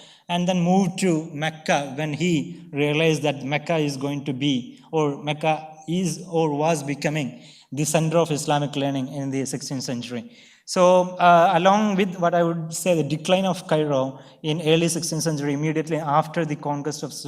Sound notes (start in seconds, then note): none